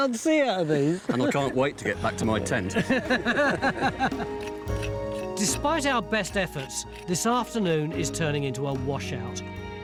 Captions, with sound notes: He can't see out of these! - And I can't wait to get back to my tent. (laughing) (gentle music) (tool scrapes) - Despite our best efforts this afternoon is turning into a washout.